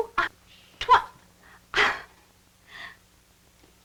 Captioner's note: stammering